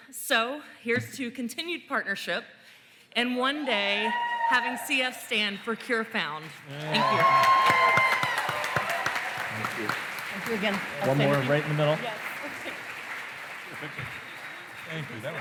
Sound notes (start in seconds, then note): 8.1 cheering, applause